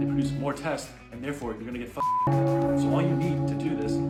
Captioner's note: beep